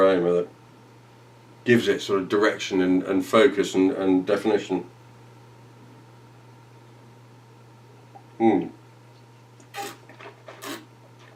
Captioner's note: slurping